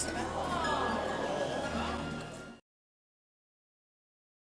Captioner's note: crowd murmurs